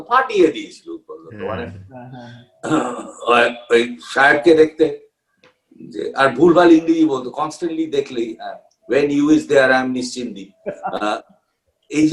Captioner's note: with bengali words in between